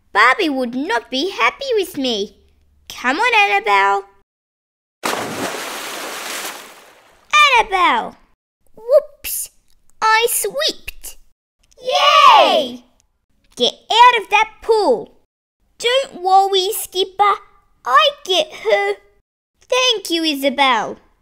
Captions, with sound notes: Barbie would not be happy with me! Come on Annabelle... (Splash) Annabelle! Whoops! I slipped! Yay! Get out of that pool! Don't worry Skipper, I get her! Thank you Isabelle